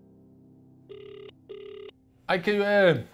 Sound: phone line trilling

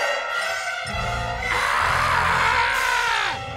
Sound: screaming

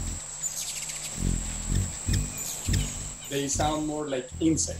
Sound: intense Humming Noise

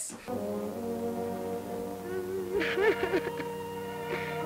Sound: sobbing

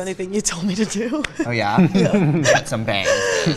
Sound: laughs

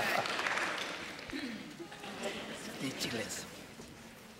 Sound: laughter

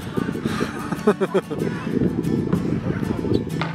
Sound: laughing

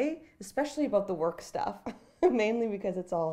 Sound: chuckling

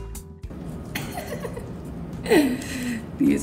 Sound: laughs

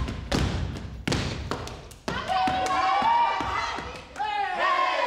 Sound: group cheer

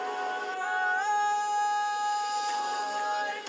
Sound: voices swell louder until song begins again

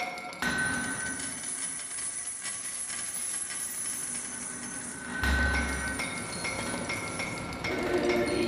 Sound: hammer sound, money & running water

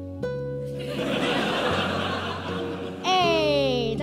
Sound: audience laughs

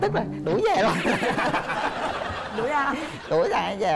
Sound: laughing

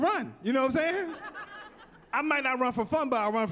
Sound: laughing

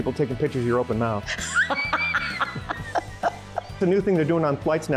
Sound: laughing

